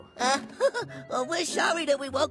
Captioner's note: chuckles nervously